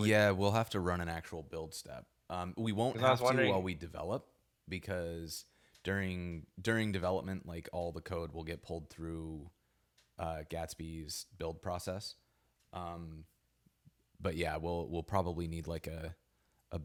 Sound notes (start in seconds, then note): none